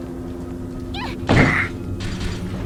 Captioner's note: fall damage sound